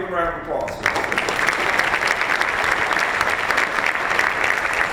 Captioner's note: applause